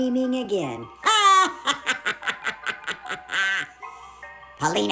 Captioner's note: laughs maniacally